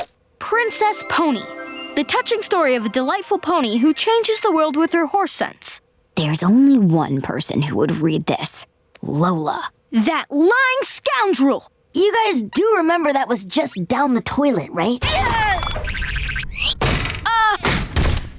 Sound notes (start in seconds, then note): 15.0 shrieking